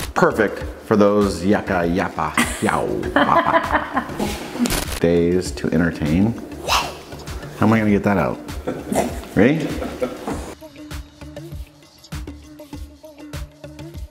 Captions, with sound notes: - Perfect for those yappa, yappa, yow. (laughing) Days to entertain, wow. How am I gonna get that out? Ready? (upbeat music)